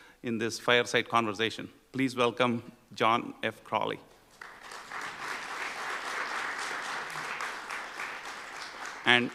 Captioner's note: applause